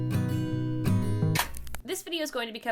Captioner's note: VHS static noise